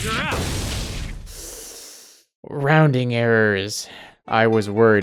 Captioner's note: sharp inhale